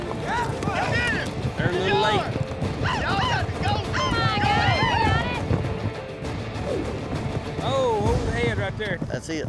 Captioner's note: all shouting